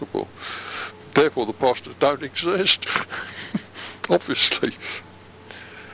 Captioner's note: chuckle